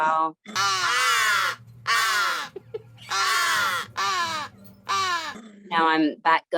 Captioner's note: crows cawing